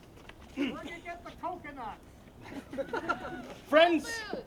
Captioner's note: laughs